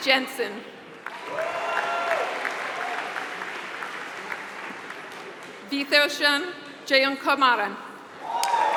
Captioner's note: applause; applause